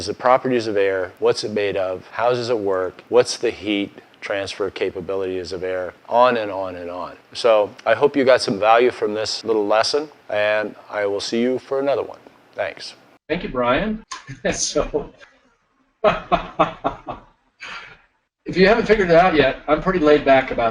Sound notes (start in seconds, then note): 16.0 laughing